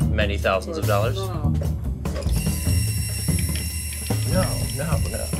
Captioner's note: faucet running